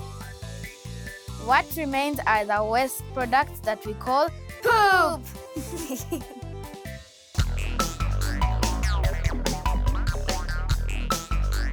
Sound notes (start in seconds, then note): 5.5 kids laugh